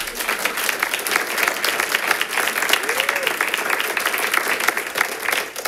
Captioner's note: audience applauding